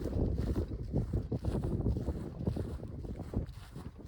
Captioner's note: footsteps